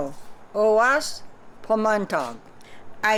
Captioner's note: non-english speech